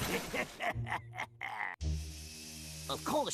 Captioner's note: laughing maliciously